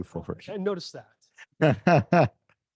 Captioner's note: laughter